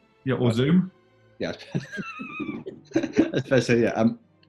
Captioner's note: giggling